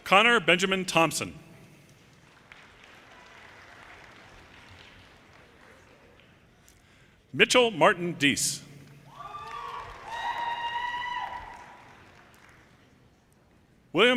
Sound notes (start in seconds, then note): 2.0 audience applauding; 9.0 audience cheers and applause